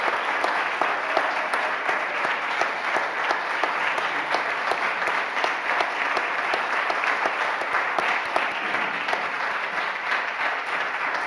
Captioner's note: applause